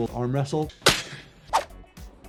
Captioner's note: hands smack; upbeat music continues